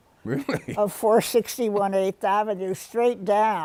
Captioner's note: chuckles